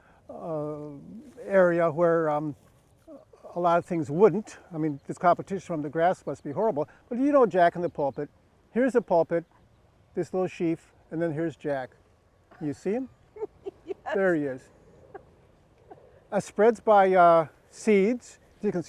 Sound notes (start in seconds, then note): 13.4 laughs